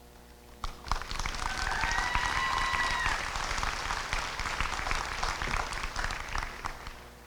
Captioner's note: applause and cheering